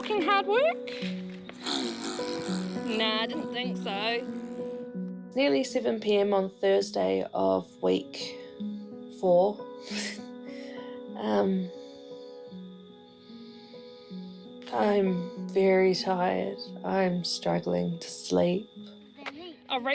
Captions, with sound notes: Is walking hard work? (BLOWS RASPBERRY) Nah, didn't think so. Nearly 7pm on Thursday of week... four. (CHUCKLES) Um, I'm very tired. I'm struggling to sleep.